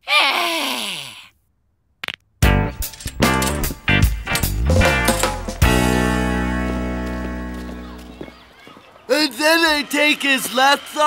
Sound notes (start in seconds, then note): 0.0 grunting; 0.0 sighing; 2.0 knuckles cracking